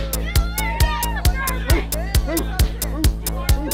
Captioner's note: yelling